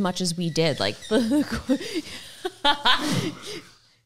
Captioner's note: laughs